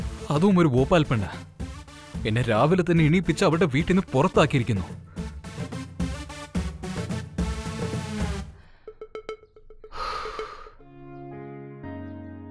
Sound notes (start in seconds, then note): 9.9 Sighs